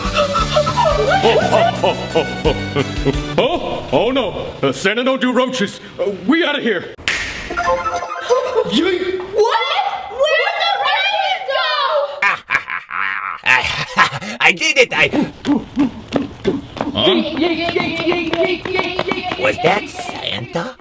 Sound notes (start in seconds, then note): 0.1 hyperventilates; 7.0 snaps finger; 12.1 mischievous laughter; 15.1 grunts